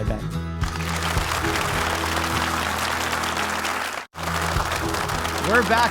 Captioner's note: upbeat music; audience applauding; upbeat music